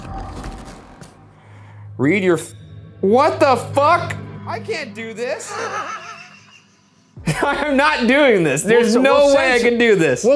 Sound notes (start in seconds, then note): 5.4 laughing